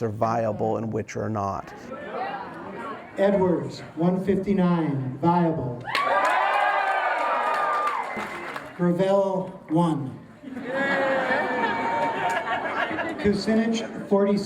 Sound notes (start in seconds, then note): 3.9 cheers and applause; 10.4 laughter